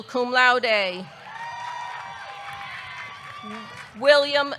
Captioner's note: audience cheering; audience clapping